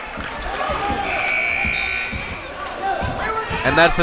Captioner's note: timer buzzes